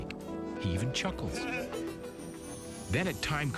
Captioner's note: chuckles